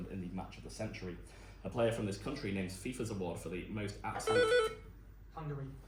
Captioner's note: buzz